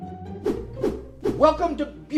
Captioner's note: air whooshing